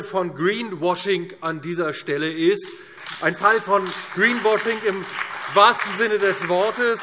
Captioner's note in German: Beifall DIE LINKE, SPD und Freie Demokraten